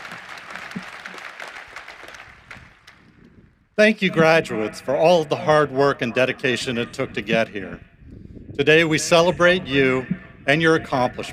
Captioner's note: applause